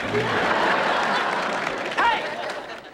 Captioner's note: audience applause